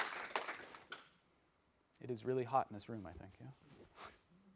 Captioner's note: applause